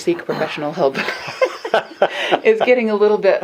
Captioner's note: both laugh